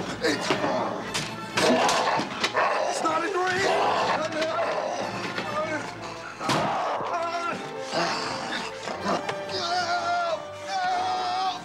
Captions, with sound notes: Jonathan, you all right? [snorting] Hey, buddy, is there something wrong?